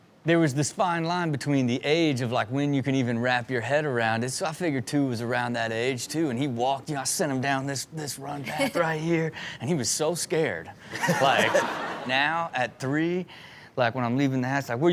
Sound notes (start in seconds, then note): 10.9 guest and audience laughing